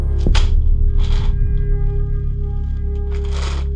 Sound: clattering

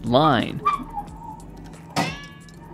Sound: pulley squeaking

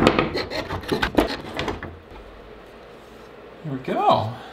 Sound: tool clicks

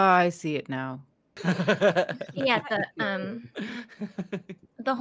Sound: laughing

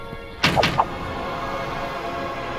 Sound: arrow striking

